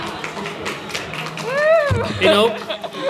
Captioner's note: applause